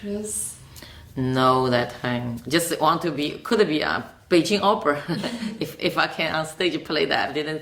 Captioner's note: laughs